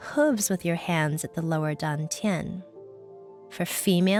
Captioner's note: speaking in foreign language